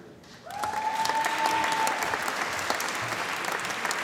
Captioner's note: applause